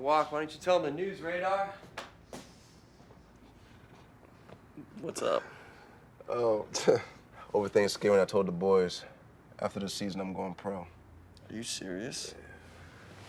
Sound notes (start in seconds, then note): 6.1 scoffs